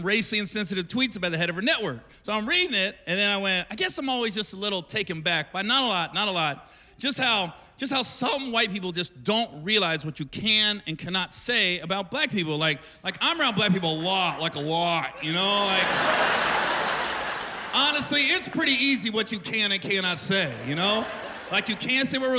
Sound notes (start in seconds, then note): 17.0 laughter